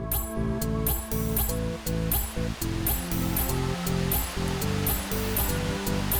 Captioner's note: upbeat music continues; raindrops pattering